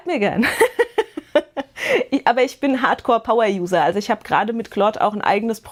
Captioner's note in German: Gelächter